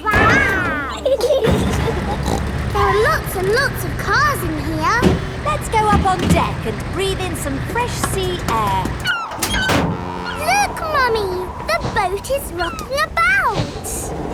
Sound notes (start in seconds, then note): 1.6 giggling; 2.2 snorts